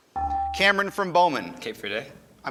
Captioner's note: ding